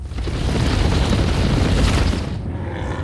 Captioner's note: rumbling